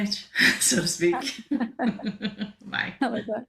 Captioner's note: laughter